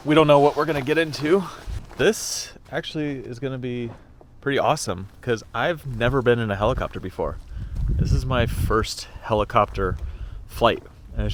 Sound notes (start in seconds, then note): none